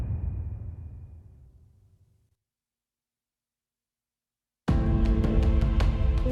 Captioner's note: dramatic sound